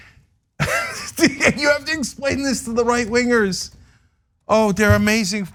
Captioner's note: laugh